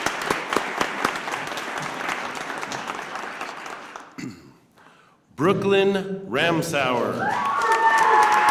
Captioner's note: cheers and applause